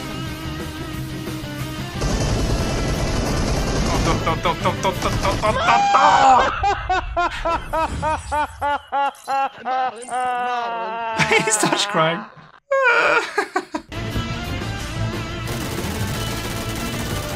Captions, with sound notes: Oh. Do, do, do, do, do, do, do, do, do, dooooh! (Laughter) He starts crying. (Cries then laughter)